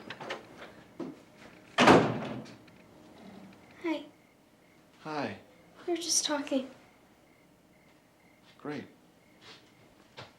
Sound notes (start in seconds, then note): none